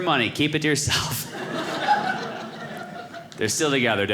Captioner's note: audience laughing